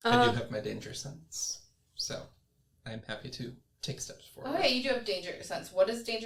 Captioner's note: none